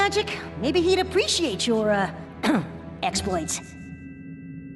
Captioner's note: ahem